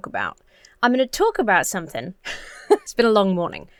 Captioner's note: laughs